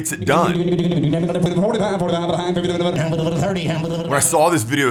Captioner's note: auctioneer chanting